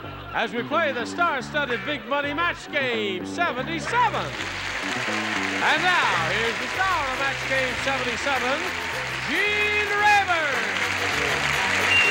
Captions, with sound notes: as we play the star-studded, big money "Match Game 77." (applause) - And now, here's the star of "Match Game 77," Gene Rayburn.